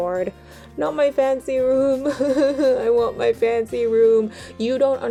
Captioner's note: fake cries